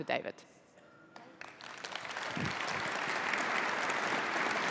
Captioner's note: applause